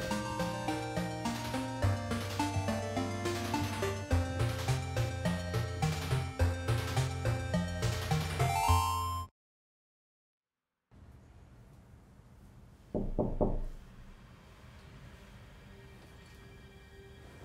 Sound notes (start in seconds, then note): 0.2 dreamy music; 7.6 mushroom chimes; 12.9 door knocking; 15.5 suspenseful music